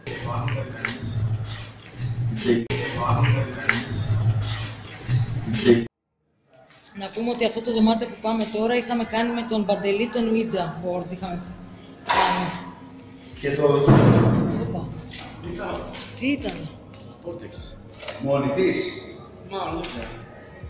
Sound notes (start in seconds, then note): 13.8 door closing sound